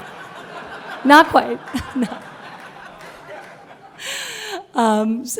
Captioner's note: laughter; laughs